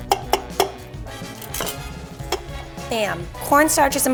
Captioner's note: tapping